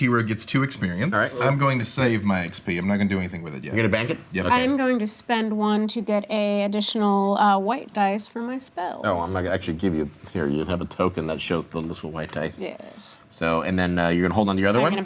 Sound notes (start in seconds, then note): none